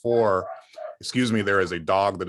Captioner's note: dog bark